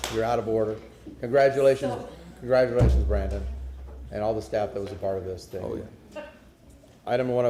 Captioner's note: applause; sounding gavel